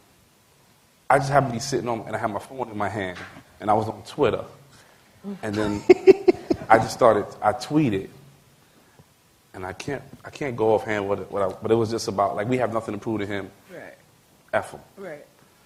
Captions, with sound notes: I just had to be sitting and I had my phone in my hand and I was on Twitter, [LAUGHTER] and then I just thought it. I tweeted, and I can't go off-hand with what this was about. We have nothing to prove to him, ever.